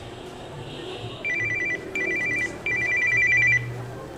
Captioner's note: phone ringing